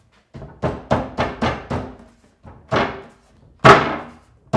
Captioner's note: hand thudding